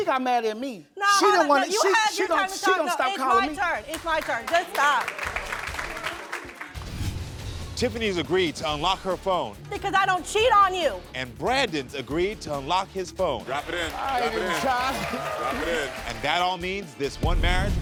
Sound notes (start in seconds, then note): 3.8 audience applauds; 6.7 dramatic music; 15.0 audience cheers